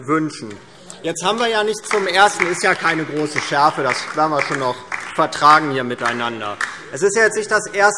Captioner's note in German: Heiterkeit und Beifall DIE LINKE